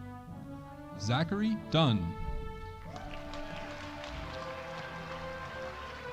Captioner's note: audience applauding